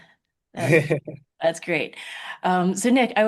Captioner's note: chuckles